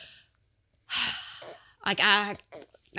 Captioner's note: sighing